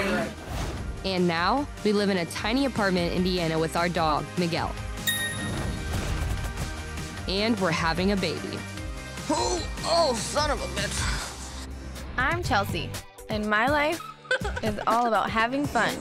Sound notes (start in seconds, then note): 8.8 groaning